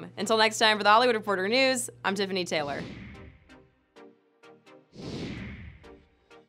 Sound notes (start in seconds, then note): 2.9 air wooshing; 3.9 quiet electronic music